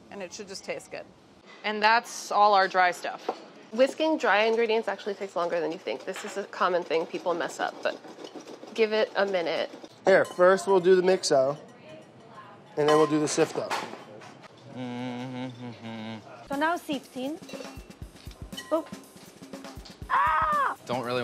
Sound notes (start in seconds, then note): 14.7 humming; 20.0 yells